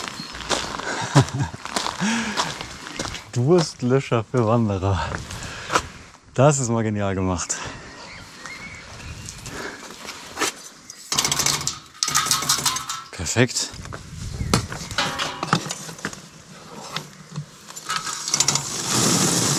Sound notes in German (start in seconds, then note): 2.5 Gelächter